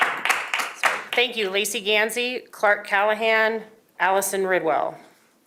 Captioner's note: applause